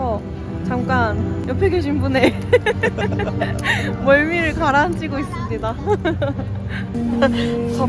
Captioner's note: laughing